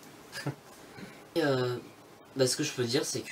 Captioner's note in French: rire